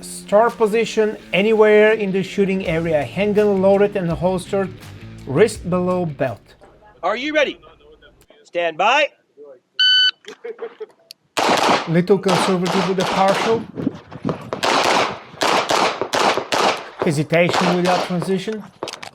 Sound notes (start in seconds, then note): 9.8 machine beeping; 11.3 gunshots banging